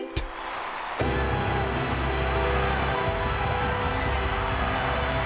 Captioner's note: wild applause and cheering